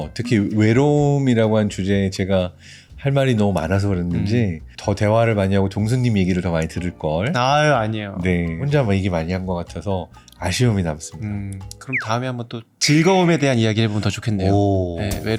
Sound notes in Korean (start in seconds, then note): 12.8 익살스러운 효과음